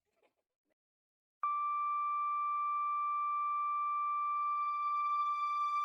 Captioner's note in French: biiiiiiiiiiiiiiiiiiiiiiiiiiiiiiiiiiiiiiiiiip